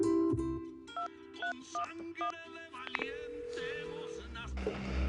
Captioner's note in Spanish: Sonido al marcar